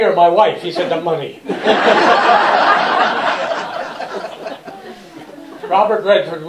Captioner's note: laughter